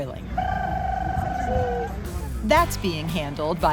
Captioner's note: chicken call